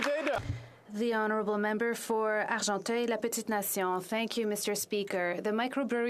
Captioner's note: applause